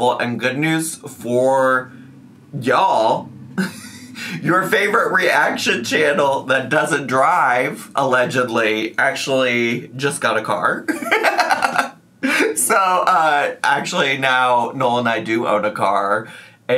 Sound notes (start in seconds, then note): 10.9 laughs